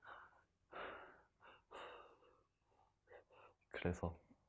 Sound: breathing

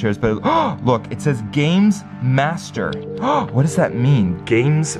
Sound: gasp

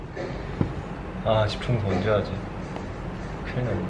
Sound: sound of heart

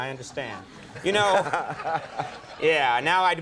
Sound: laughing

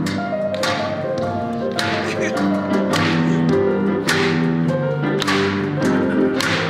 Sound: audience claps in time; jazz continues

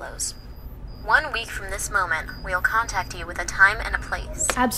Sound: woman on phone

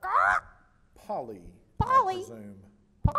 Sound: squawks

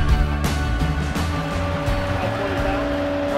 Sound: machine engine roaring

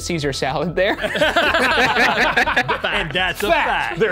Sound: all laughing

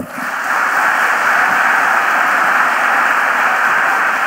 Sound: audience applauding

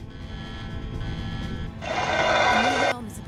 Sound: srchreeeeeeehhh

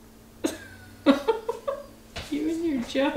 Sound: laughing

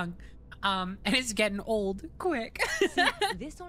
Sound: laughter

